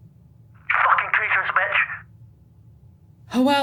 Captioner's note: distort